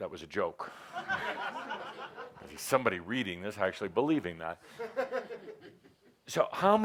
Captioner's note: laughter